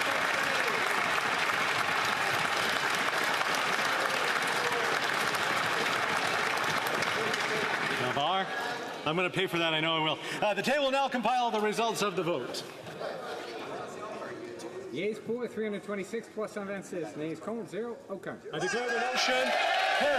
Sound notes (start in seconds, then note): 4.1 applause